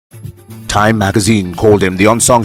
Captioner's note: radio Ad of Lecture